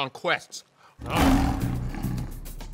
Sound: growling

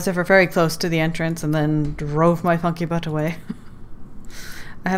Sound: laughs

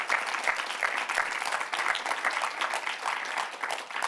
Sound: applause

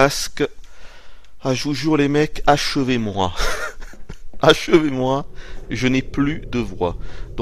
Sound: laughter

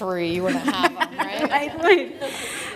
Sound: laughter

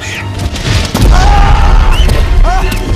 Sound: exclaiming

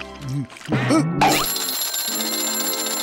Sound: ringing

